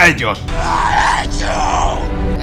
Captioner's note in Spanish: en japonés